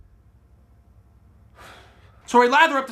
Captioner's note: sighs